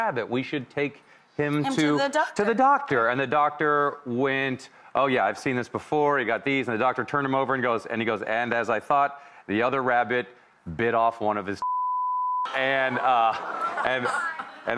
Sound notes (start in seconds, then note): 11.7 audience groaning; 12.8 audience murmuring